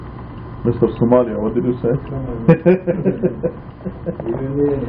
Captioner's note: laughing